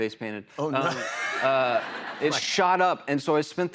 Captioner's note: laughs